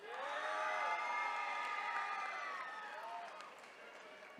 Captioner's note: attendees cheering